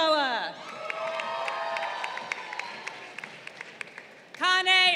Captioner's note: crowd cheering